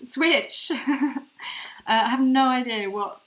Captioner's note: laughs